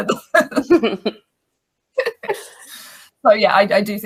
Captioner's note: laugh